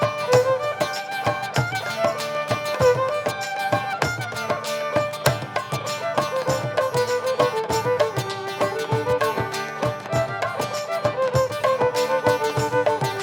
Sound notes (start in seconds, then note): none